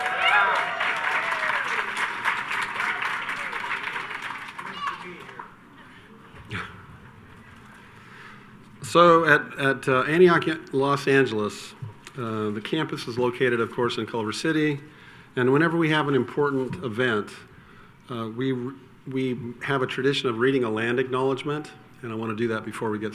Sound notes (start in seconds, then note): 0.0 audience cheers and applauds; 4.6 child shouts